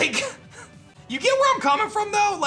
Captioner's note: giggles